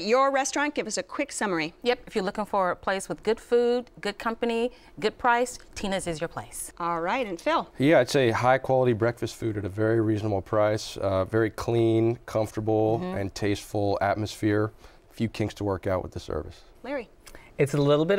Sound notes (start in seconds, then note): none